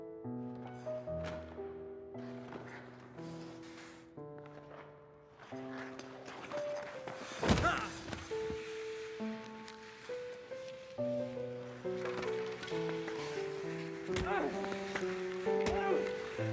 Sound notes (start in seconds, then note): 7.6 grunts; 14.1 punching